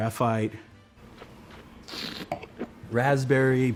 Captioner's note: slurps and swishes wine